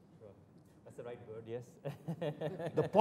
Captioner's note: laughter